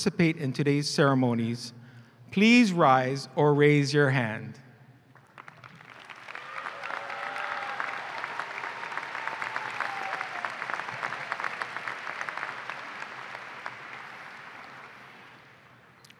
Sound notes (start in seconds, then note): 5.1 applause and cheering